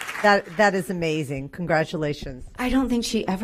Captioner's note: applause